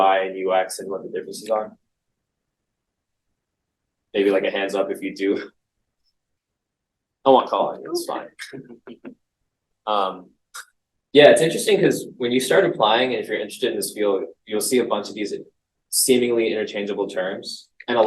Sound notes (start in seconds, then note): 7.3 chuckles